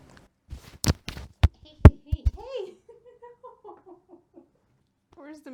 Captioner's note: microphone gets whacked noises, voice and giggles barely audible